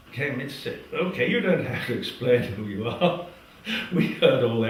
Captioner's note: laugh